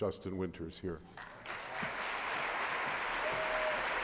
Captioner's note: applause